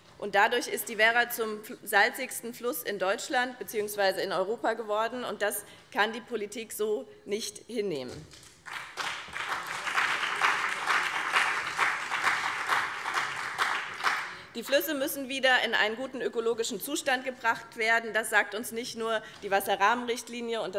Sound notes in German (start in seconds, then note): 8.6 Beifall BÜNDNIS 90/DIE GRÜNEN und vereinzelt CDU